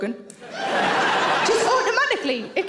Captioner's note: audience laughs